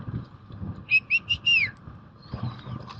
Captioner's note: whistling